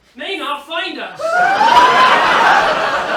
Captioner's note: she screams; laughter